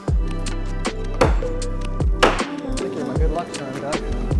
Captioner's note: gentle music; hammering; murmuring